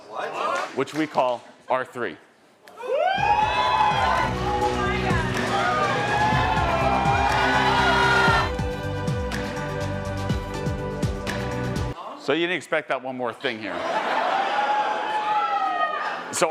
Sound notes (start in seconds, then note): 2.8 audience cheering; 3.2 lively music; 5.7 audience cheering; 5.7 lively music; 13.5 audience laughing; 14.0 audience cheering